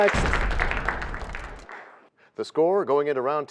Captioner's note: crashing sound